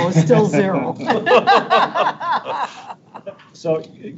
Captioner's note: board members laughing